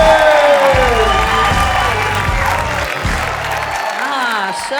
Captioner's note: audience cheering